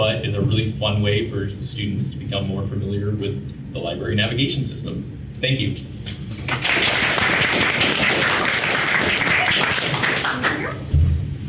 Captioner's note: applause